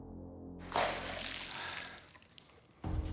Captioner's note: exhales